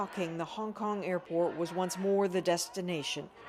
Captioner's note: chants